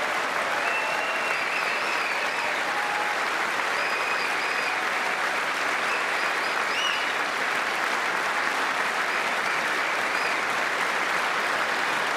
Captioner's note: applause